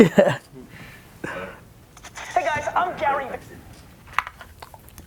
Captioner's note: voiceover